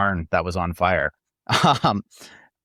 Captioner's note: laughs